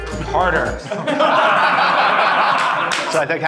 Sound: laughing

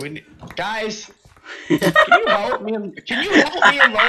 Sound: giggles

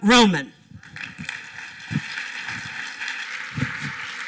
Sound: applause

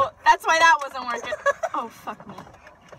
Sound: laughter

